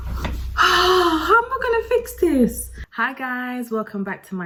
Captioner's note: sighs